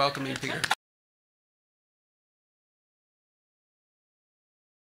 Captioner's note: audience clapping